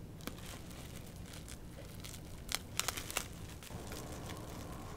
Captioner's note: plastic wrap crinkling